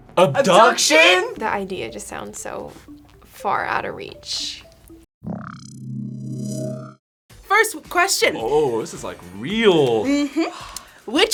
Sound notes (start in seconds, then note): 5.4 ominous hum